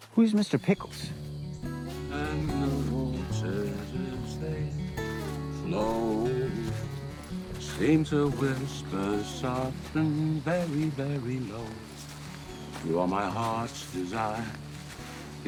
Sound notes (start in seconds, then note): 1.4 gentle guitar music; 2.0 Joe vocalizes